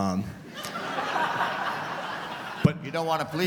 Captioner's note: laughter